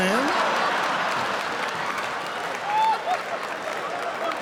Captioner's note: audience laughs